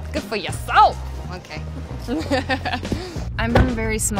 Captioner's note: laughing